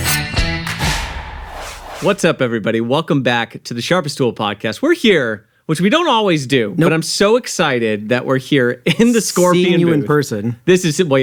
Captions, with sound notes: (metal scraping) (graphics whooshing) - What's up everybody? Welcome back to "The Sharpest Tool" podcast. We're here, which we don't always do. But I'm so excited that we're here in the Scorpion booth. - Seeing you in person.